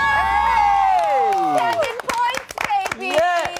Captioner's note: all cheer